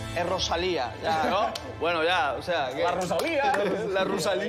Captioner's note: laughter; acento catalán